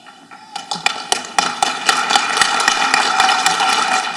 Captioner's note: people applauding